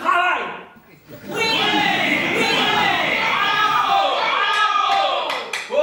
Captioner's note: cheers and applause